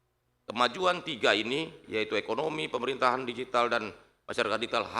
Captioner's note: none